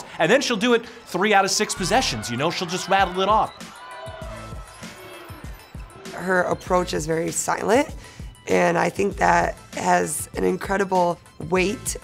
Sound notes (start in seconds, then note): 3.8 crowd cheering; 3.8 upbeat music